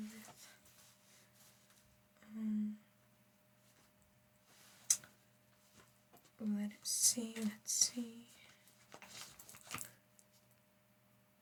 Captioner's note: silence